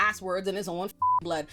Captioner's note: beep